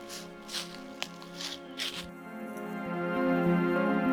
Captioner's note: feet scuffling